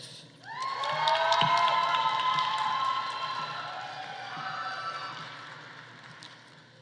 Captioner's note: audience cheering; audience applauding